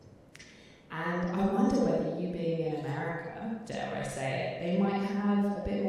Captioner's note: chuckling